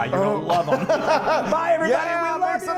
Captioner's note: loud laughing